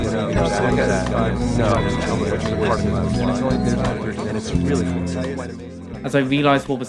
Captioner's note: more audience murmuring